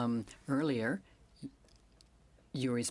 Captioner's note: speaking in French